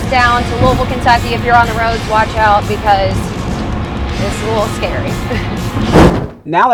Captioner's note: laughs